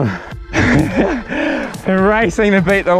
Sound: laughs

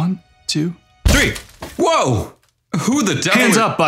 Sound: the door kicks open

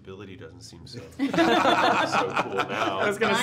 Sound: all laughing

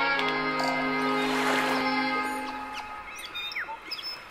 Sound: nature sounds; bird chipping

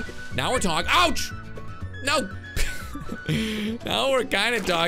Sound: laughs

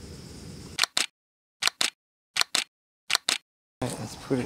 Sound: camera clicking

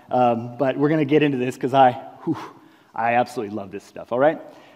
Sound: breathing out

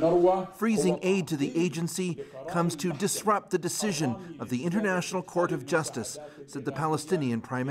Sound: speaking alternate language

